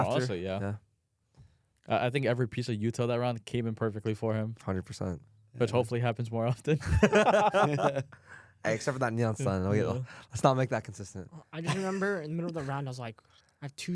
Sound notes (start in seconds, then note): 6.8 laughs